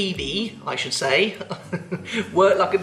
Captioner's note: chuckles